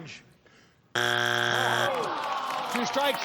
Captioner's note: buzzer sounds